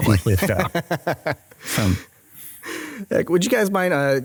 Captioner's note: laughs